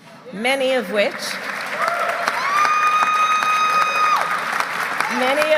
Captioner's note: applause